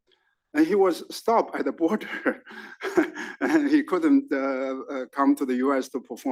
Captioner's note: laugh